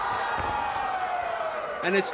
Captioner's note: crowd yells